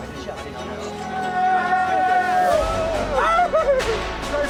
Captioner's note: cheering